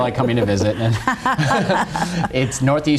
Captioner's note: both laughing